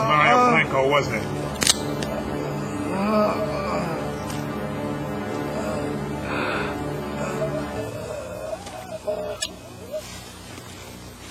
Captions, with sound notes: MARIO BLANCO, WASN'T IT? (GROAN)